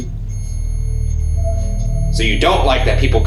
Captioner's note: REM-pod beeping